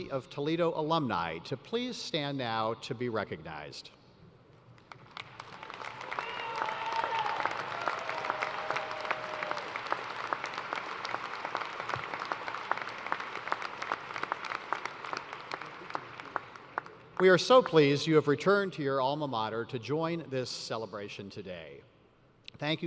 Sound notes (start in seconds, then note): 7.9 cheers and applause